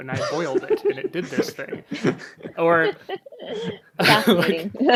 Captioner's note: laughs